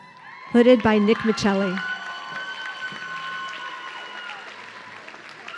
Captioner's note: audience cheering